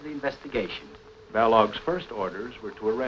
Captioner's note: narrating